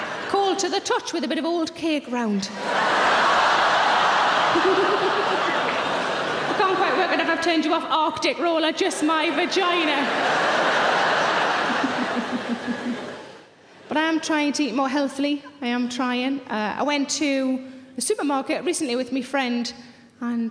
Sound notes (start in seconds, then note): 2.5 audience laughing; 4.4 Sarah laughing; 8.8 audience laughing; 11.5 Sarah laughing